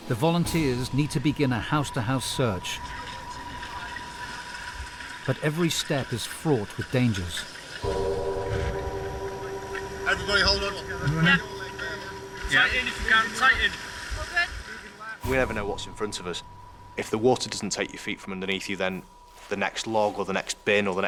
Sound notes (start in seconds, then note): 2.9 intense music; 2.9 water streams; 7.8 intense music; 7.8 car droning